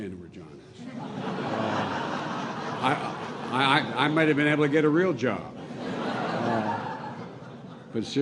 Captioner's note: laughter